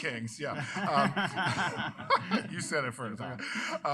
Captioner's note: laughter